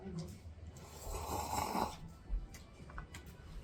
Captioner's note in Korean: 후루룩